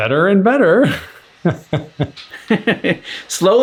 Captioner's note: laughter